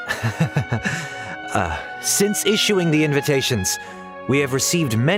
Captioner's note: laughs